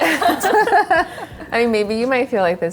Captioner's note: everyone laughs